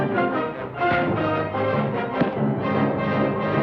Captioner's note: thuds